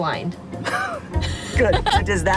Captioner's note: laughs